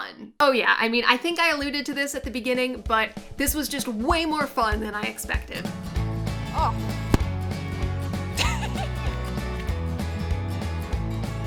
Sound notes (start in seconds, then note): 8.4 laughing